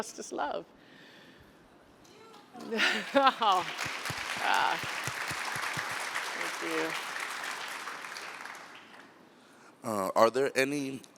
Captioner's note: applause